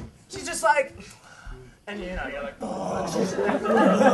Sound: groans

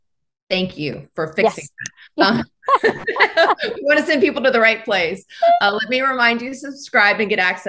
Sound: laughing

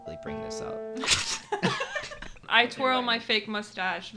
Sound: all laughing

